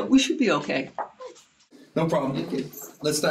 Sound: items jostling in purse

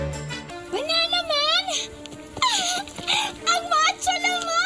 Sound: giggles

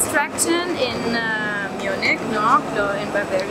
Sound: speaking foreign language

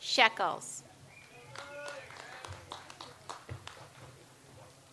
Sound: audience applauds

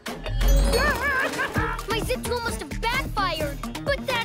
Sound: chuckling

